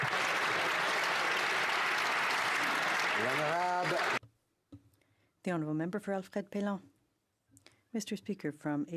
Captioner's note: some Applause